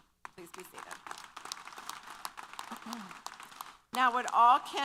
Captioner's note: applause